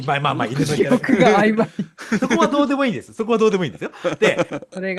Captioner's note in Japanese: 笑い